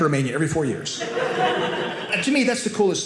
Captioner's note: audience laughing